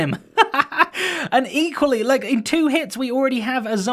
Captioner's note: laughs